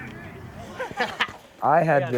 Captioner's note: laughs